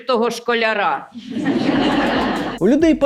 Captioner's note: laughter in the hall